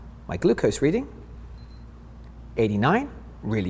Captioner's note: meter beeps